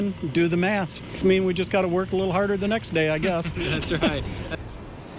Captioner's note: laughs